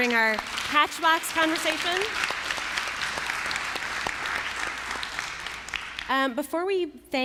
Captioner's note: applause